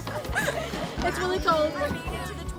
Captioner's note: laughing